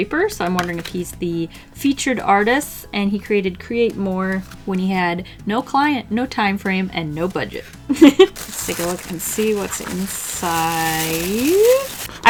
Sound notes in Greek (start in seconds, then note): 7.9 Γέλια